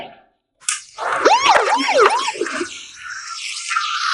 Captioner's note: siren pulsing